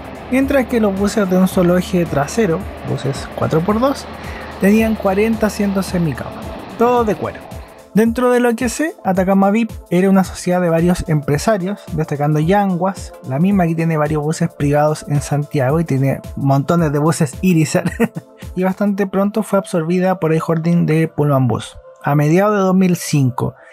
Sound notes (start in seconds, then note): 17.8 laughs